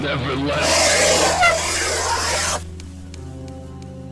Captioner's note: moving chair cuts it off